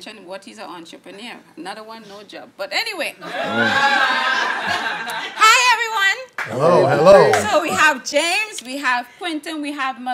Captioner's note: audience laughing